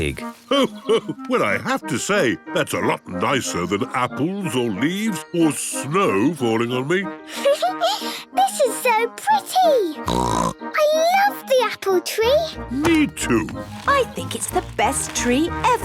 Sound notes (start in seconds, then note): 6.8 Peppa laughing; 10.0 snorting